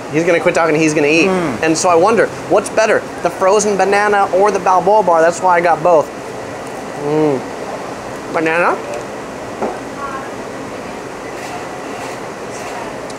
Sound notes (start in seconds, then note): 7.0 moans